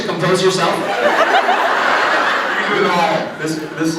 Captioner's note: laughs